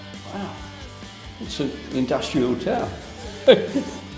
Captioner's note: laughs